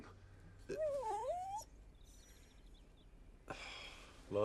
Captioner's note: dog whines